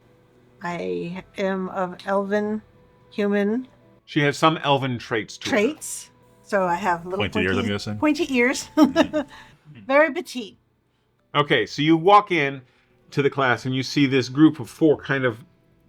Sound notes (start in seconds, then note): 8.7 laughs